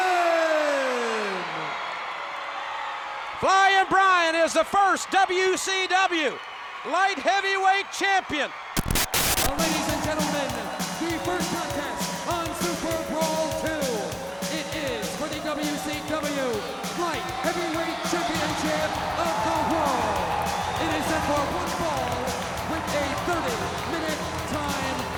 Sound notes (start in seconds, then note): 0.1 crowd cheering continues; 8.8 graphic crackling; 9.1 lively music; 9.1 static hissing; 20.0 crowd cheering